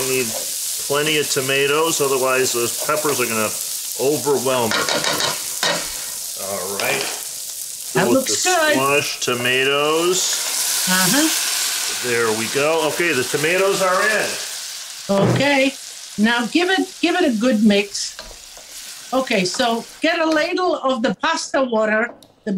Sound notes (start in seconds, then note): 4.9 food sizzling sound; 4.9 rattle sounds